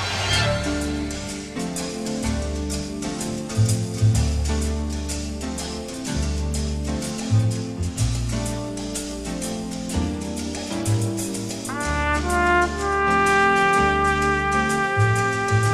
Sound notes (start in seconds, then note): none